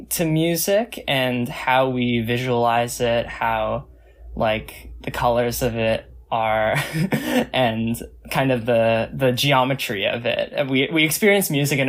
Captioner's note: laughs